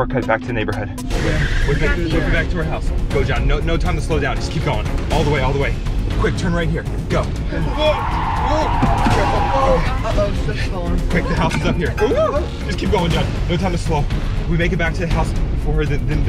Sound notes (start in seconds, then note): 1.3 wheels squealing; 7.5 tires squealing